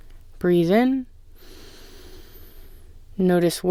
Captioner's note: inhale